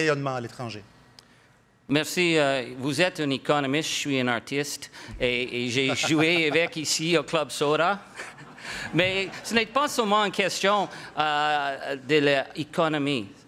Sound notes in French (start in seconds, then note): 10.5 rires